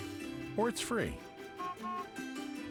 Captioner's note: honks horn